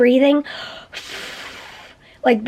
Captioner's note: blowing out